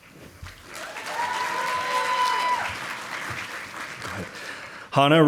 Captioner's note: audience applauding